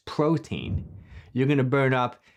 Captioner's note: thumping sound